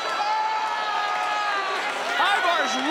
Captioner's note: Ivar screams